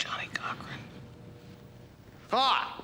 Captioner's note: whispering